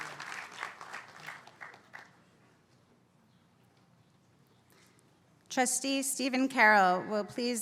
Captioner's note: applause